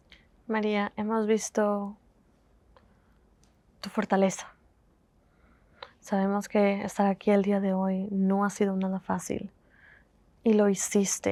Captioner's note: Spanish